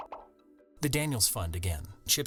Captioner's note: pop, pop, pop